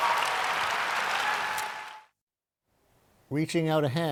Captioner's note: applause